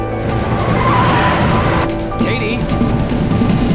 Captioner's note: tires squealing